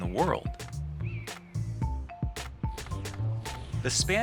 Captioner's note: bright upbeat music; eagle calling